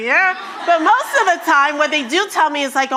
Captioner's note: attendees laughing